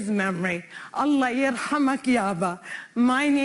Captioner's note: in Arabic